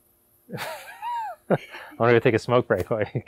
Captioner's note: laughing